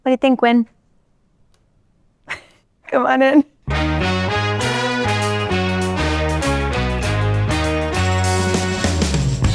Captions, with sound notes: What do you think, Wynn? [chuckles] Come on in. [bright music]